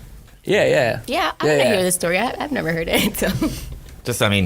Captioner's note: laughing